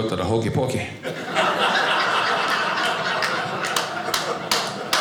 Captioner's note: audience laughing; man applauding